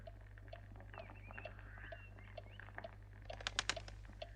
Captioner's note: fire crackles